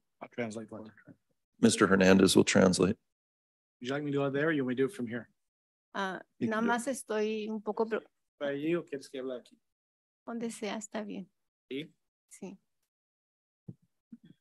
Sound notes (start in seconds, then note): 7.1 speaks in Spanish